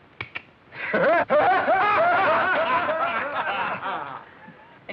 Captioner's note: laughter